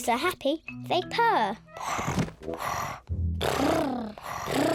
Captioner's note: all purring; purring